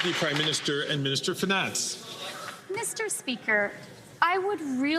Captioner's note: some Applause